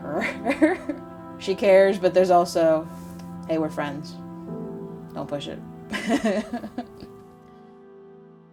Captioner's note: laughs; laughs